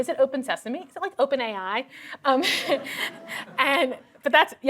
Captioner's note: laughter